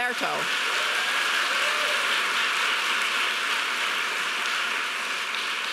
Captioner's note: audience applauding